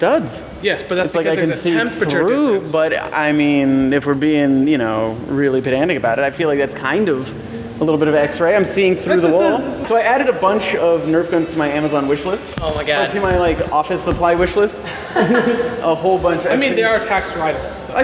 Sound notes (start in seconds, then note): 14.8 laughing